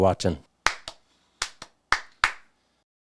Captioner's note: clap, clap, clap